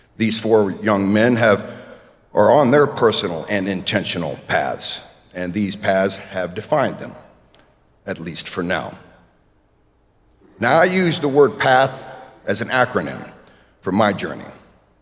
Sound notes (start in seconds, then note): none